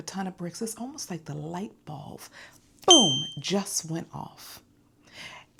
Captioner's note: ding